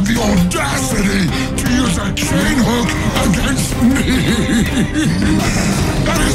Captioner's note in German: lachen